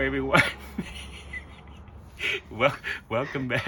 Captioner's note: laughter